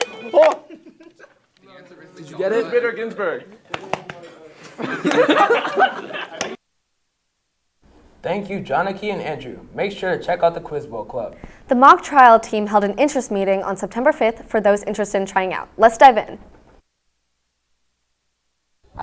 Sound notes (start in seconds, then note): 4.6 laughter